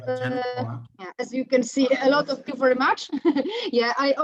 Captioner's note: laughs